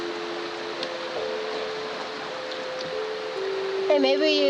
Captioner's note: relaxing chiming music; stream swishing strongly